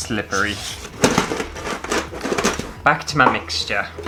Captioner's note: cake Tin Rattling